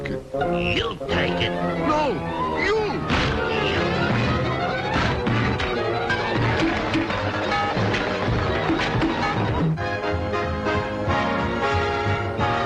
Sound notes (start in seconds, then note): 2.9 blows thudding; 9.8 lively music